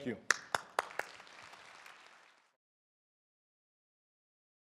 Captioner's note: crowd clapping